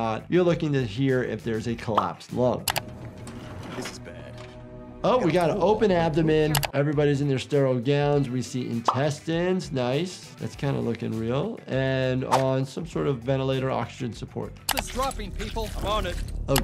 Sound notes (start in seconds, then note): 2.9 cart wheels roll